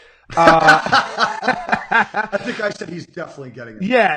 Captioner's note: laughing